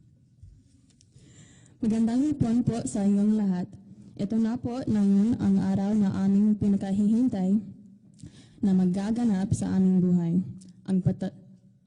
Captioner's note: speaking in Tagalog